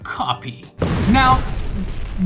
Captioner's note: explosion